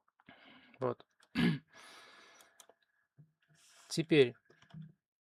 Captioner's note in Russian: откашливается